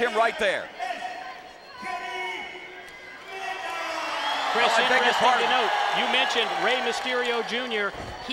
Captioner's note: applause